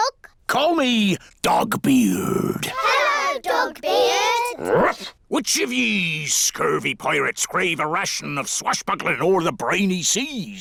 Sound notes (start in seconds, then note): 4.6 barks